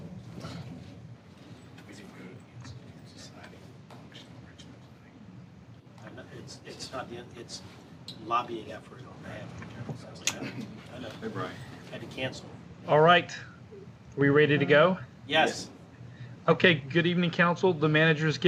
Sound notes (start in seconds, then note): 6.3 áPHONE RINGINGá